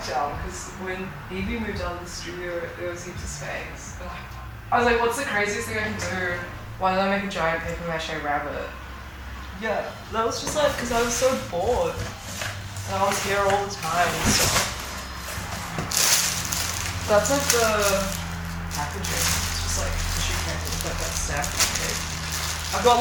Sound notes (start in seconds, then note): 4.3 sighs; 12.0 paper rustling; 14.5 box scraping; 16.1 plastic rustling; 19.7 plastic rustling